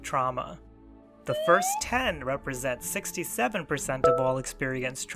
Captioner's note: meter filling